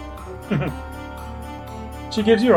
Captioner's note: chuckles